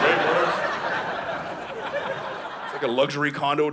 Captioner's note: audience laughing